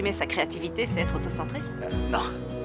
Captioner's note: chuckles